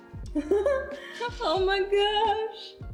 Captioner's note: exclaims